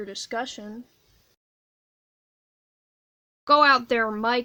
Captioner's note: prolonged silence